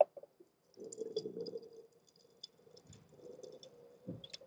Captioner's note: pouring